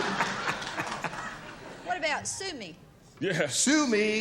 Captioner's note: laughter